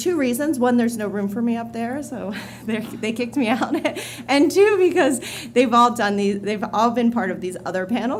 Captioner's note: laughter